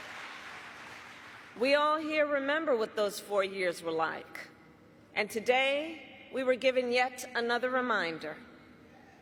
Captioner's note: cheers and applause